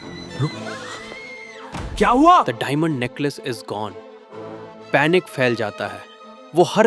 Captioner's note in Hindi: मटिल्डा चिल्लाती है